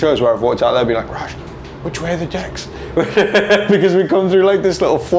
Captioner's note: laughing